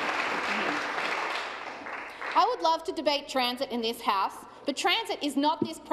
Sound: applause

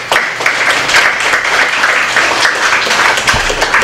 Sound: applause

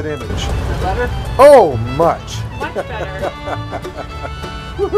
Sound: laugter

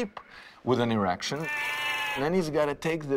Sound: sheep bleating

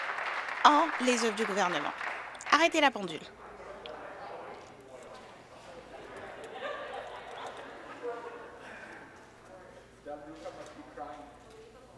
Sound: applause

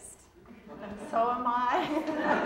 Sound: audience laughing

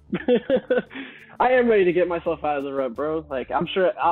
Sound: laughs

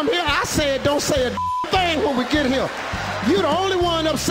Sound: beep

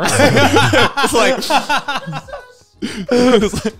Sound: all laughing

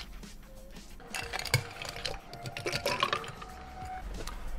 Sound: upbeat music; ice rattles

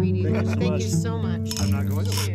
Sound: laughter

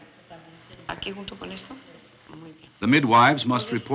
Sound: speaking Spanish

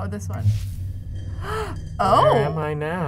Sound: inhales sharply

